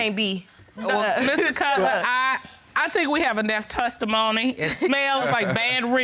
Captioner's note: laughter